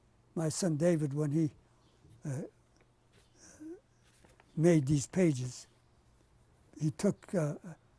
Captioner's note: pauses for 3 seconds